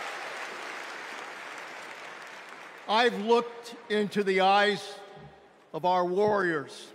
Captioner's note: applause